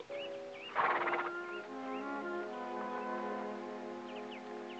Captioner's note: horse snorting